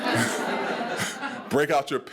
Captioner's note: attendees laughing